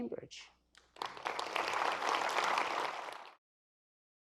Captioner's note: applause